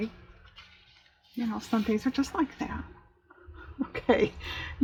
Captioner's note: laughs